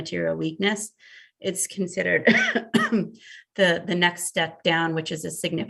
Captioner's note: coughs